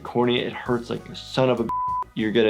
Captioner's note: beep